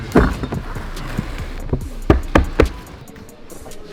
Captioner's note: bottles clanking